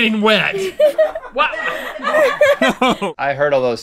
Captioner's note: laughter